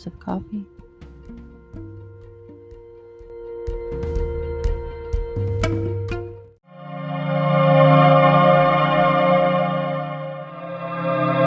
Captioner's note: transition sound